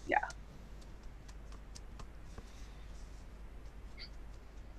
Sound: fingers tapping softly

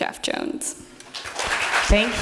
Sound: applause

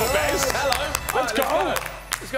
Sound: cheering; chiming

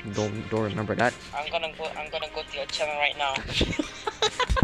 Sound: laughing

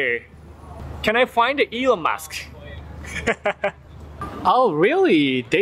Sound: laughs

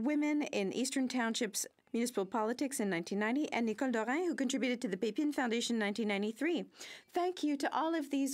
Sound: speaking French

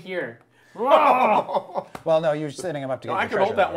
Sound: laughing

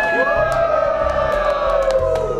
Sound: cheering

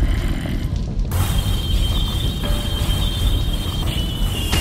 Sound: energy Sounds

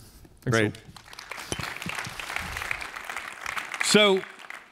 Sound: applause

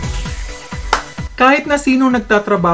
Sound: clap!

